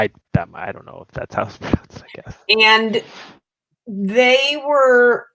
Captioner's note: laughter